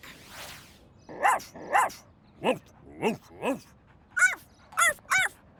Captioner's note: barking